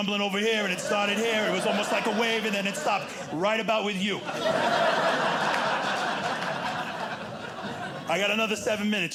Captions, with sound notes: over here and it started here. It was almost like a wave and then it stopped, right about with you. [audience laughing] I got another seven minutes,